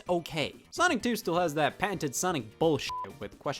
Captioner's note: beep